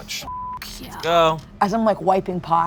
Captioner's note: beep